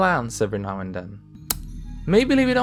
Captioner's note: kiss sound